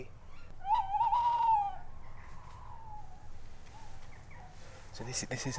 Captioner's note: hooting continues